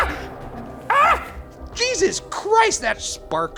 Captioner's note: screams